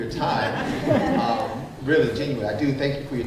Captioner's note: group chuckling